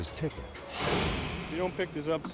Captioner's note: graphics whooshing